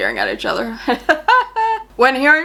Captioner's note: laughs